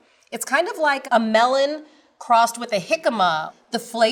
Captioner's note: none